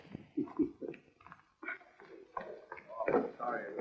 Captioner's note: laughing; chattering